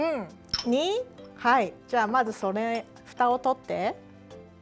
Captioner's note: speaking Japanese